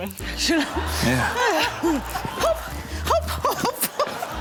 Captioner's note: laughs